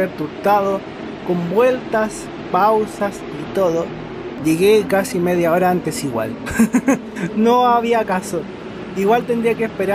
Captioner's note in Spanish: risas